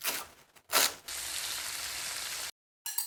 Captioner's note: sizzling sound